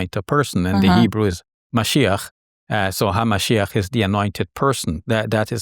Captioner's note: speaking in Hebrew